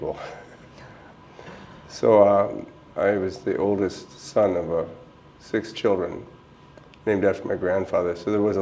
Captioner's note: chuckle